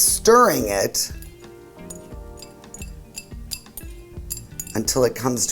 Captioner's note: utensils cluttering